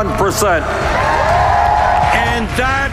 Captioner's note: huge applause